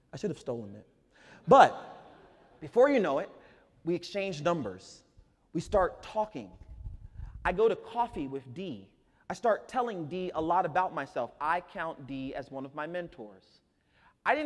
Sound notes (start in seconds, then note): 1.3 audience laughs